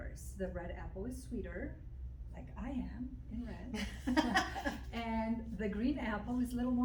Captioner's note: laughter